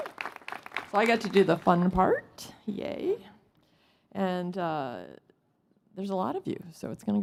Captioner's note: applause